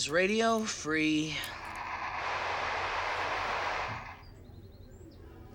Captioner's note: hesitantly; static sounds